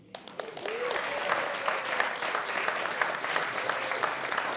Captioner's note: audience applauding